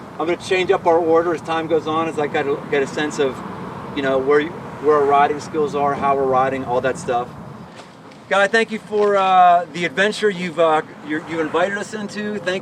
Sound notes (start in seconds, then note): none